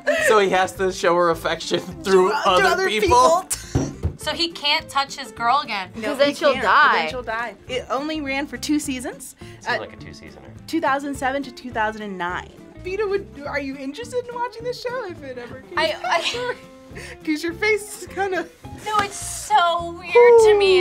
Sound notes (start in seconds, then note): 3.9 laughs